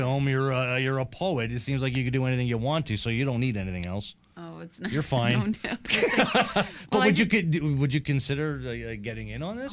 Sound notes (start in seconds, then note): 5.9 chuckles; 5.9 laughing